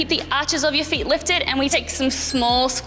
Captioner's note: bell chimes